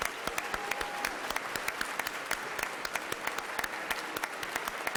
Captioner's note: everyone clapping